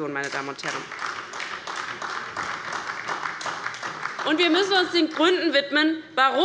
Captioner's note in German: Beifall bei der LINKEN und der SPD